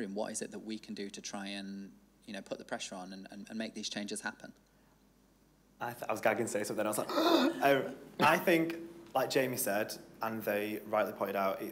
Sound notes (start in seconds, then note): 7.0 gasps